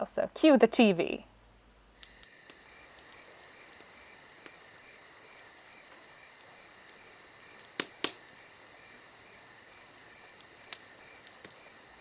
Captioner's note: camp fire and cricket sounds